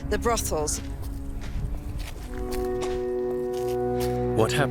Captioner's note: footsteps sound